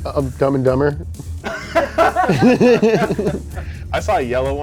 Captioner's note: laughter